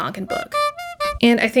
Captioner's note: clown horn honking